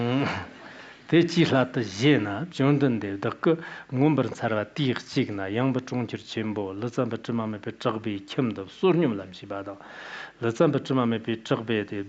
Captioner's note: giving oral transmission in Tibetan